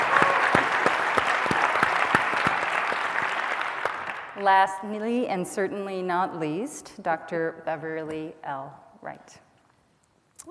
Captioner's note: cheers and applause